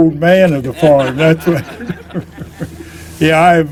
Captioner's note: laughter